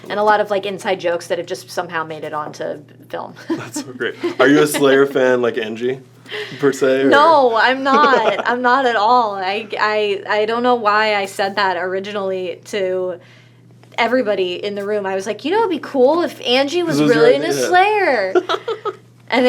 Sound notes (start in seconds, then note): 3.4 laughs